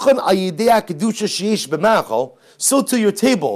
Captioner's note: Hebrew